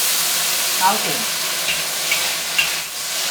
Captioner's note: Cantonese